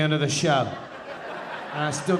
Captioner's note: audience laughing